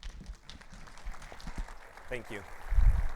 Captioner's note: audience applauds